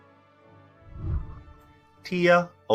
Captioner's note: whooshing